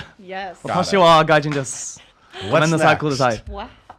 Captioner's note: speaks in Japanese